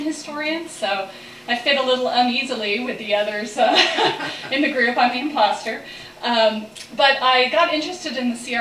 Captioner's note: laughs